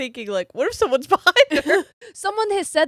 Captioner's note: giggles